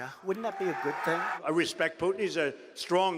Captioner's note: cheering and applause